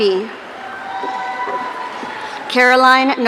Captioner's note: audience cheering